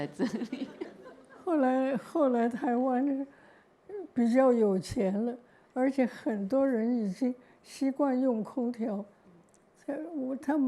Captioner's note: laughter; Mandarin